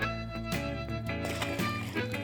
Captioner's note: relaxed country music; water splashing